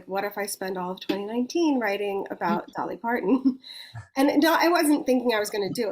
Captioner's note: chuckles